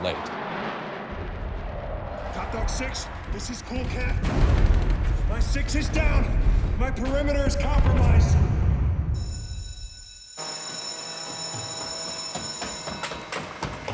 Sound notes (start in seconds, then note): 0.0 jets roaring; 4.7 rapid gunfire blasting; 9.2 school bell ringing